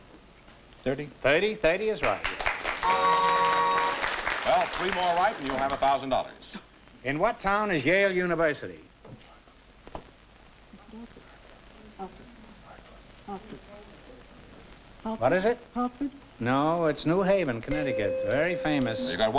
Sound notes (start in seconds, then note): 2.0 applause; 11.0 whispering